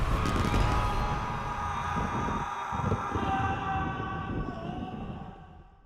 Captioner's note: shots firing; man shouting